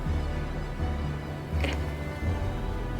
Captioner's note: whispering